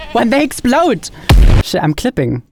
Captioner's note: explosion booming